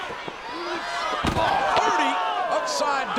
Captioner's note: body thuds